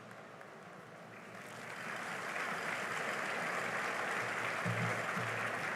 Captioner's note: applause